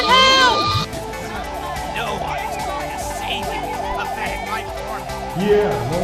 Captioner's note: schemingly laughs